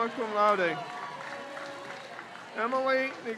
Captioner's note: crowd cheers